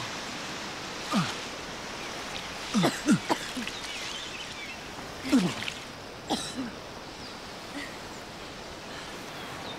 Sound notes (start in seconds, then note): 2.7 coughing